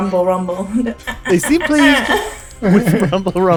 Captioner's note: cute “rumble, rumble” noises